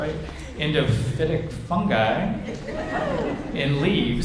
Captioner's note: audience chuckles